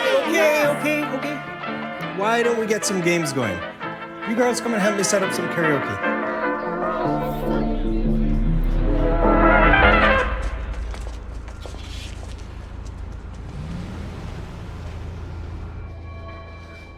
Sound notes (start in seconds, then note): 9.2 music crescendos, stops; 10.6 footsteps; 14.1 engine starting, tires rolling; 15.0 ominous musical sting